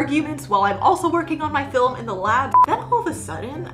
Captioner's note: beeps